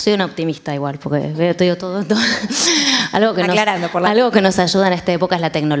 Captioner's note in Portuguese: Risos